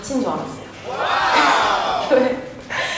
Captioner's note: ha-ha-ha